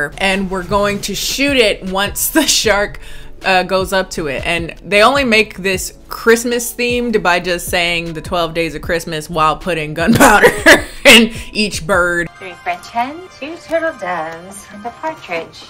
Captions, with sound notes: and we're going to shoot it once the shark goes up to it. And they only make this Christmas themed by just saying the 12 days of Christmas while putting gunpowder. (laughs) Each bird. - (speaking faintly)